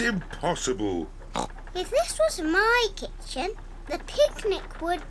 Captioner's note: oinks